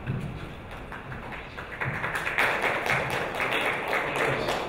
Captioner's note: audience applauding